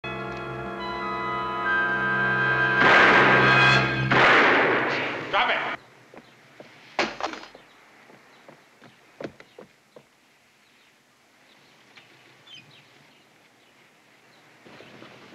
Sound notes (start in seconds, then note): 2.8 gunshot